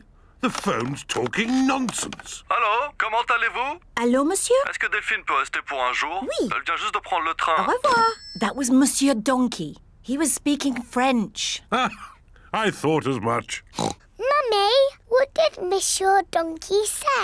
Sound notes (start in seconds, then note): 4.5 speaks french; 13.7 oinks